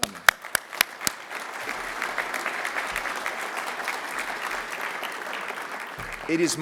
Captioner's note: applause